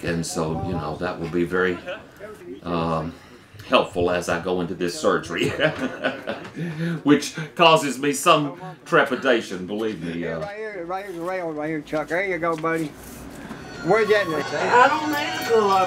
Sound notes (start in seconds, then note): 5.4 laughs